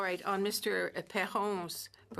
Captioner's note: speaking French